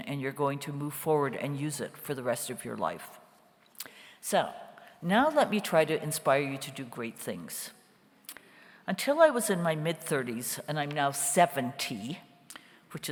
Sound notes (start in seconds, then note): none